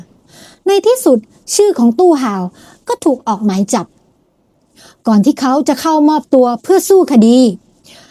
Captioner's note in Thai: เสียงสูดหายใจ